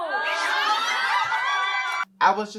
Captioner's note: cheering